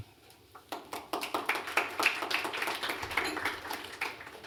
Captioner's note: applause